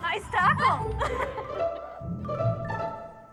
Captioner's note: laughs